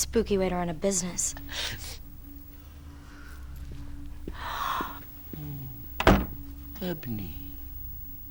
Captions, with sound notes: - Spooky way to run a business. (door slams) - Ebony.